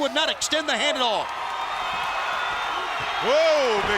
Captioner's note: crowd cheering